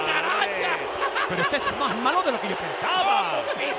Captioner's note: laugh